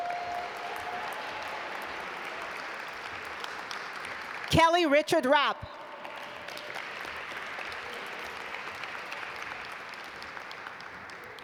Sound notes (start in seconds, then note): 0.1 audience applaud; 7.2 audience applaud